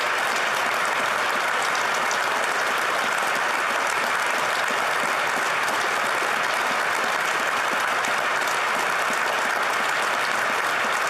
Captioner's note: applause